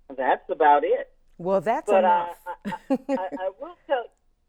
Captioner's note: chuckle